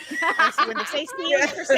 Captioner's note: people laughing